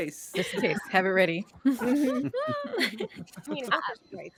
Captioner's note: laughs